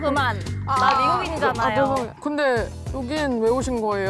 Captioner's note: sound of sudden realization